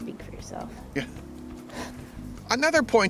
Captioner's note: chuckles